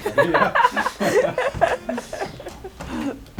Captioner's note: laughs